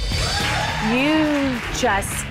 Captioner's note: cheerleaders applauding